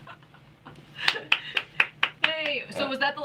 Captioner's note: clapping